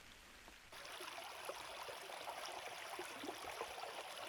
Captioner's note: water splashing